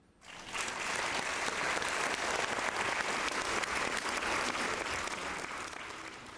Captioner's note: applause